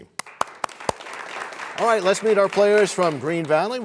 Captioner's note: applause